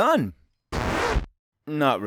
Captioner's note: record scratch